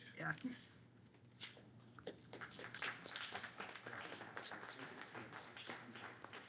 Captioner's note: audience applauding